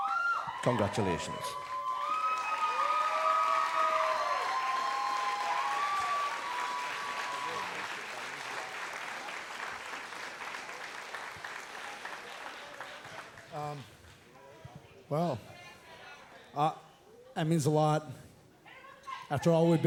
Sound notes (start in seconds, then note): 2.7 cheers and applause